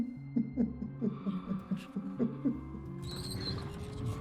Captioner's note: man crying